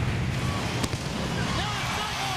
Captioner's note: fireworks booming